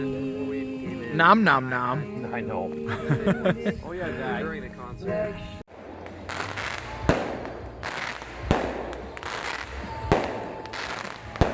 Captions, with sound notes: Nom nom nom (laughing). - I know. (fireworks crackling)